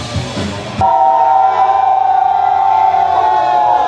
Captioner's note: cheers